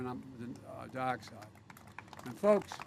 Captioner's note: applause